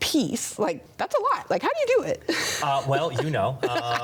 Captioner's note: chuckling